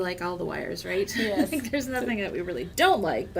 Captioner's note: laughs